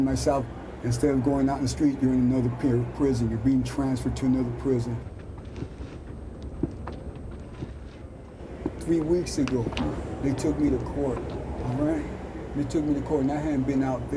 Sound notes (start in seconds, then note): 5.1 footfalls